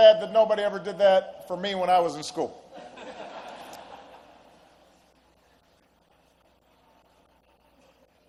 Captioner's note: laughter